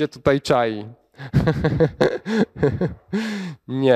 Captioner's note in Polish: lekki śmiech